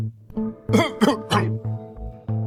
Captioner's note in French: Tousse